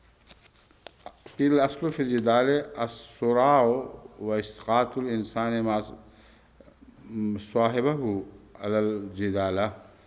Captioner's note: Arabic